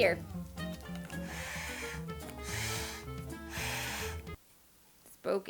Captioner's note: attempts at blowing noise maker